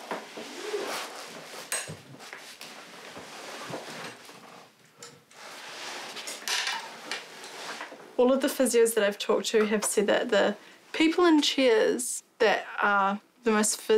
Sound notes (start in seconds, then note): none